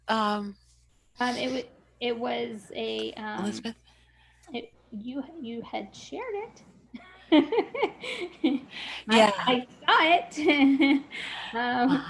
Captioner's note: laughs